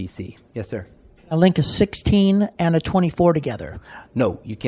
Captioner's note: audience member speaking